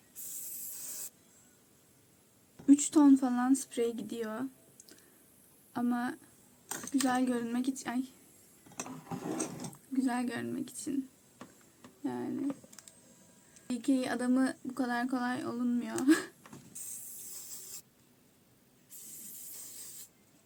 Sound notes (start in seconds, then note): 16.8 psspspspspsp